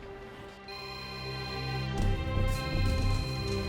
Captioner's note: phone ringing